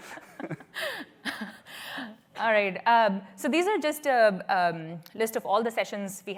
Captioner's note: laughter